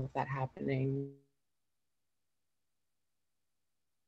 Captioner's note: sound cuts out